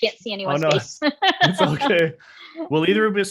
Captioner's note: laughing